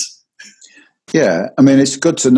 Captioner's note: chuckles